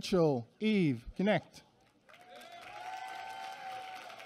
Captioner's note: applause